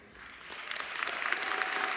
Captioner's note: cheers and applause